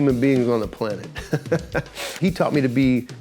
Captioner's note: laughs